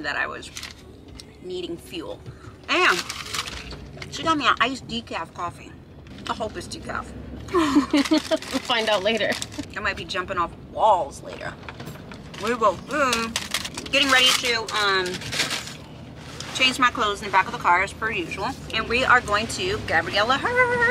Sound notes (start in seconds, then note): 7.5 both laughing